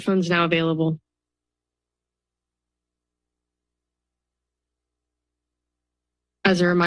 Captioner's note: silence